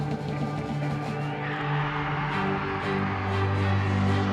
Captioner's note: cheering